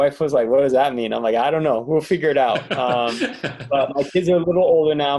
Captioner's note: laughter